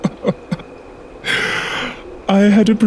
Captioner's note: Snape's Hearty Laughter; catching His Breath